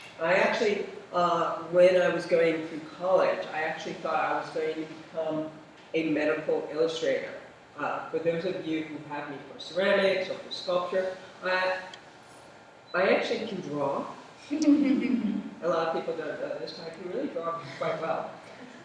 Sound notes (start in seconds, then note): 14.8 laughter